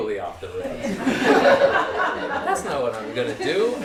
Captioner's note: laughter